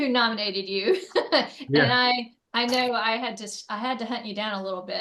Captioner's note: laughs